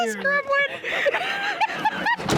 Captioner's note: laughing